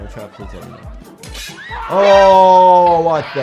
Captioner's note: trap snaps